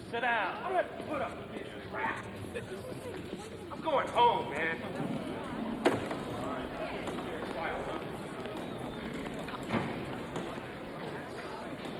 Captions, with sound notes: - Sit down. - I'm not gonna put up with this crap. I'm going home, man. (gates clattering) (people chattering)